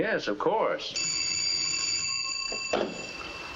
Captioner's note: telephone rings